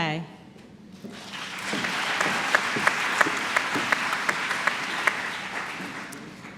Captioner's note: applause